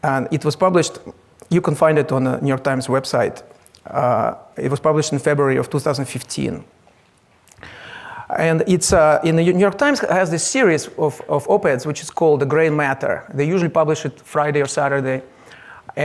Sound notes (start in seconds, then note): none